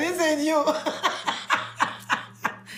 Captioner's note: laughing